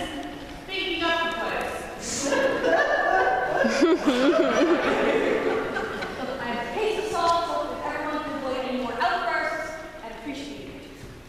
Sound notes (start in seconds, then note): 1.6 crying